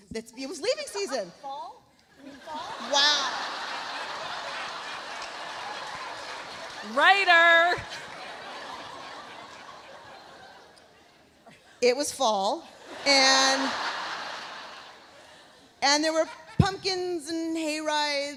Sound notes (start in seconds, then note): 2.4 audience laughs; 3.8 laughter continues; 8.0 audience laughs; 12.7 audience laughs